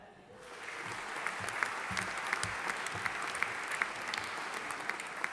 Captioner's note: audience applauding